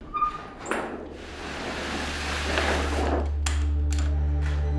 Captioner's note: equipment sounds